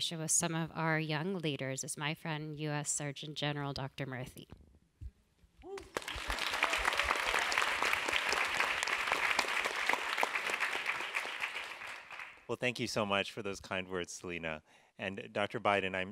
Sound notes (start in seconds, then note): 5.7 applause